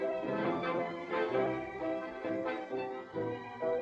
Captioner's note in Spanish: none